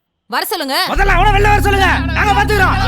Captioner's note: loud angry voices